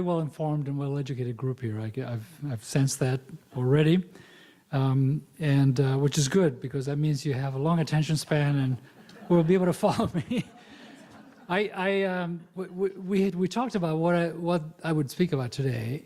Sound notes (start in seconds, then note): 12.4 laughs